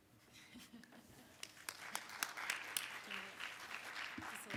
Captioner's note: audience claps